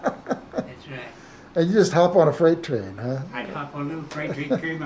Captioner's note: chuckles